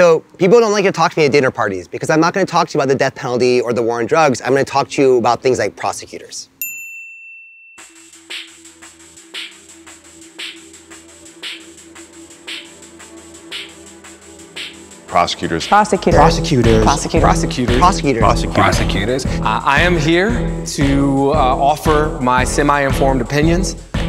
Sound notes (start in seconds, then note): 6.6 bell dings; 7.7 dramatic music